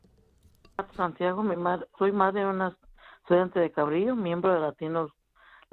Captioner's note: speaking Spanish